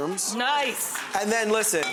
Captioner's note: audience applauds